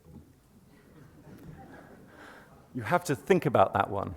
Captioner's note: laughter